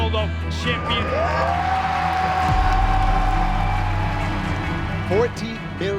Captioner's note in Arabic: تشجيع الجمهور